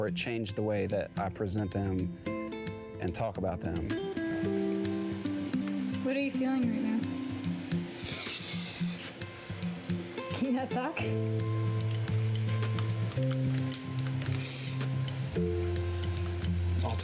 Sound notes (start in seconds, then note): 8.0 deep breath; 14.4 sniffles